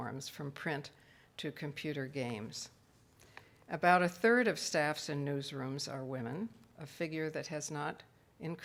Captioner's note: none